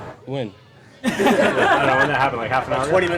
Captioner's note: laughter